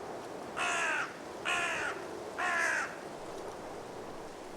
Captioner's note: cawing